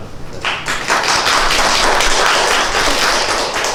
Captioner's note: applause